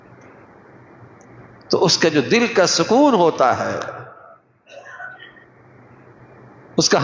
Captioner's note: clears throat